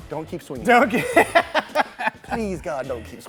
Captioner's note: laughter